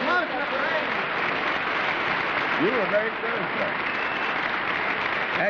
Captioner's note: applause